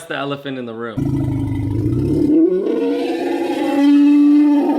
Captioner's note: elephant growling